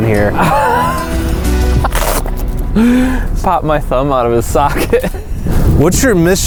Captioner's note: laughs